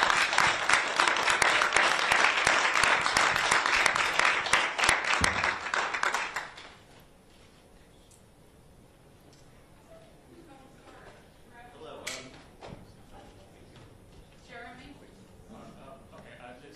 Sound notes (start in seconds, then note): 3.2 applause